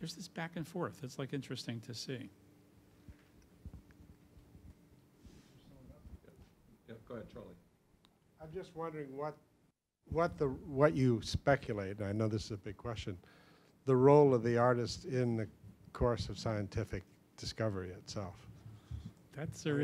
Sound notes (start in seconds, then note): none